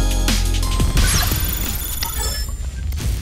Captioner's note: beeping